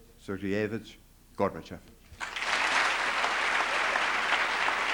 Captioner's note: applause